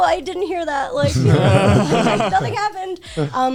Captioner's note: guys laughing